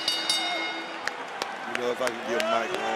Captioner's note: bell rings